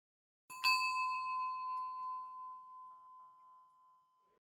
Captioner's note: bell chimes